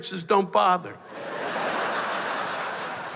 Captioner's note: laughter